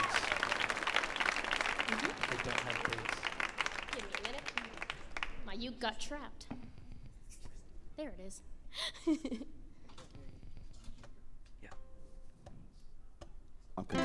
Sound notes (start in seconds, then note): 10.0 laughs